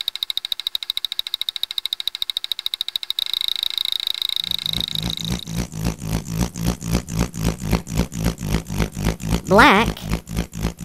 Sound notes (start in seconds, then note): 0.3 clicking; 4.4 grader motor